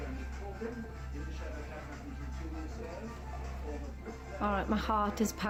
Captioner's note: TV broadcasting quietly